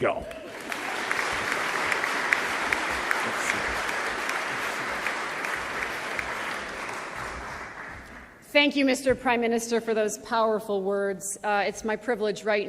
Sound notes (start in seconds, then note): 5.4 applause